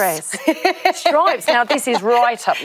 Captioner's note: laughs